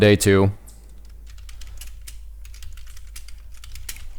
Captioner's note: keys typing